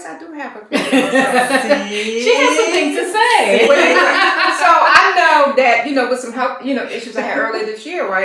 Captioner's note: laughter